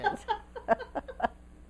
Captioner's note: laughter